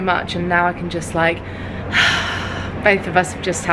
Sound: sighs in relief

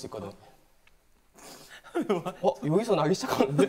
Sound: sniff

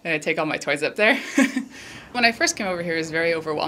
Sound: laughs

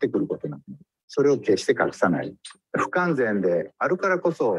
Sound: speaks in Japanese

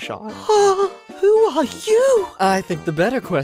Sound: swoons

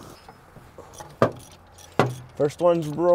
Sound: wrench cranks

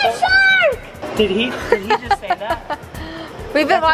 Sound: laughs

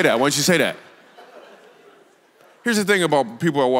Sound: congregation laughs

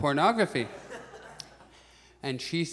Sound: audience chuckles

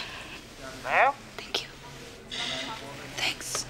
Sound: on phone

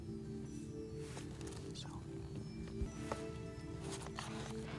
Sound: whispering

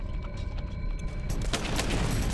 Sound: gunshots

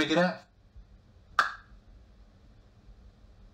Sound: hands smack

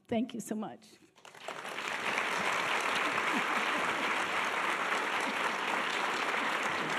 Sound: audience applause

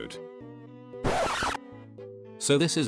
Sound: record scratch

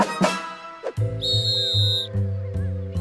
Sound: whistle blows

